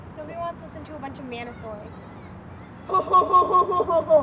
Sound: mock laughing

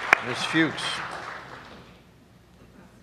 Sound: applause

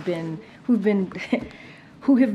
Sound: laughs

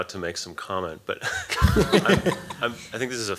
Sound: laughter

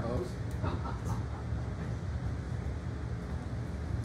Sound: laughing

